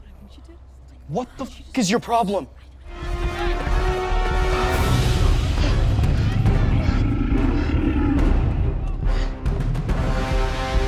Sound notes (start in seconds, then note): 5.1 dramatic music; 5.9 wolf growling